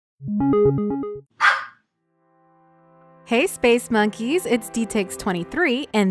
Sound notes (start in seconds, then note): 1.4 start sound, dog barks